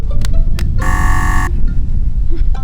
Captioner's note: buzzer